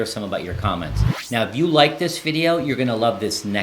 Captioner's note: video effect whooshes